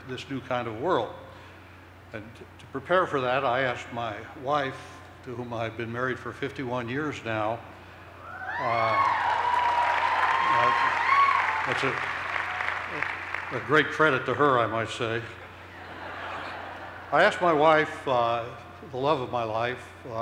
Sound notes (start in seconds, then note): 10.8 cheers and applause